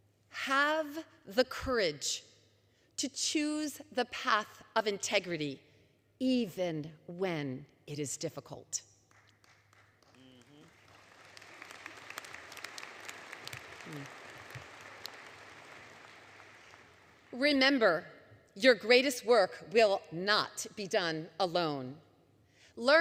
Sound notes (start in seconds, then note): 9.0 applause